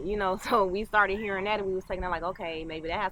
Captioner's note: laughs